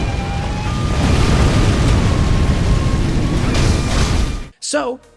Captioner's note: explosion booming